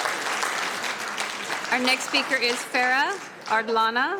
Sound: applauding

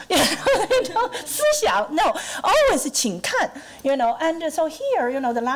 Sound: laughing; foreign language

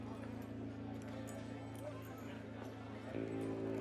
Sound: saloon chatter

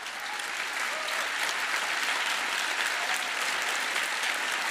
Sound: applause

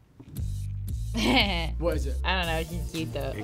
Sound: laughs

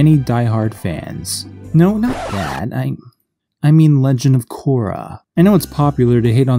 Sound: record scratch

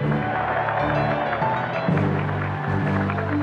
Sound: cheering; applause

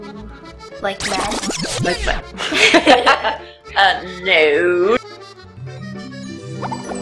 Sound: laughing

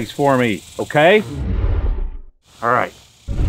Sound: dinosaur sound

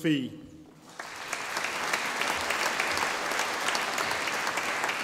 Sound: audience applauding

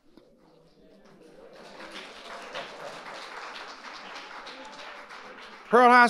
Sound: audience applauding

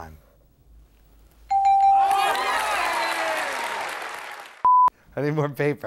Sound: bell rings; crowd cheers

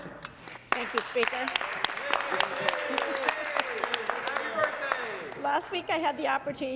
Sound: some Applause

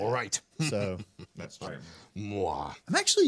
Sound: man chuckling

